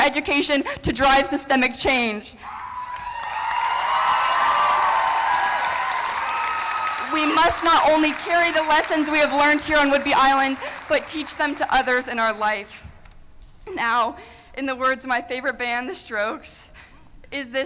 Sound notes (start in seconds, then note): 1.0 applause; 1.0 cheering